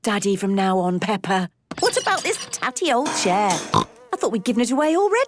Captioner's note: snorting